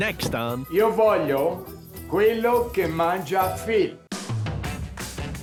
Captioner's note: in Italian